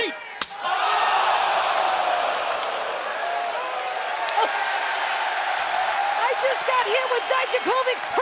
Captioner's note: crowd cheering